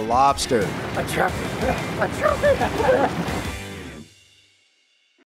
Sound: laughing

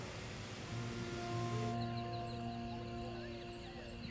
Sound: birds chirping

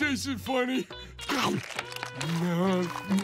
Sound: munching

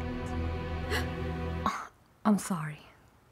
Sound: Lili gasps

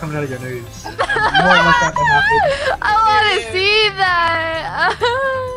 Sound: laughter

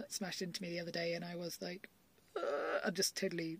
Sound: makes funny noise

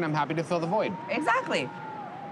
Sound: faint cheering

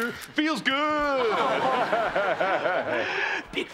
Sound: laughing

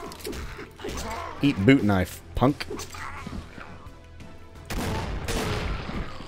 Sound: boom

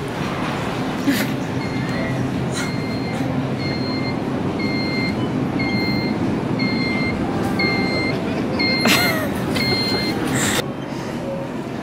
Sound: Scooter beeping; stifling laughs

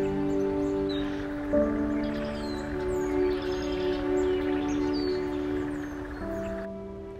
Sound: running water

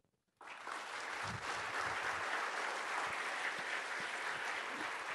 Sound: audience applauding

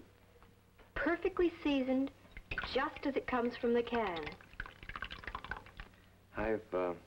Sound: pouring, plopping noises

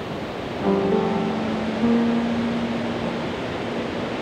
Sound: ocean roaring

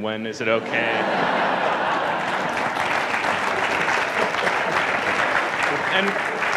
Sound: laughing and crowd applauding

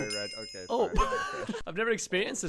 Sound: laughs

